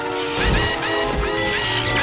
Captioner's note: electricity buzzes; robot whirs frantically; battery clanks; alarm blares and beeps; robot whirring frantically